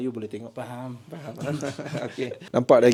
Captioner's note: laugh